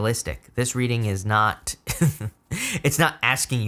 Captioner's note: laughing